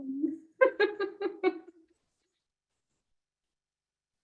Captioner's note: laughs